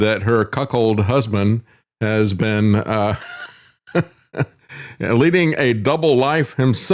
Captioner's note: laughs